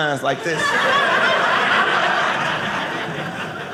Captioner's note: audience laughing